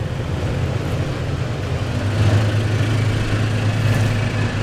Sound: light-hearted pizzicato strings; truck revving engine

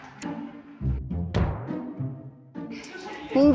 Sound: chuckling

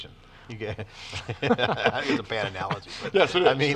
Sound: laugh

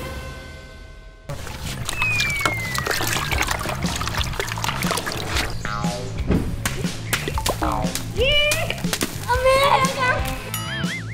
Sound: all cheering together

